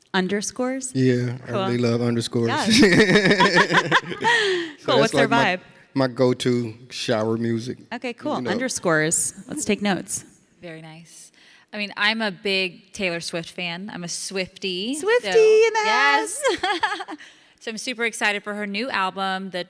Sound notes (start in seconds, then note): 2.5 laughs; 4.4 Ilana laughs; 15.3 laughs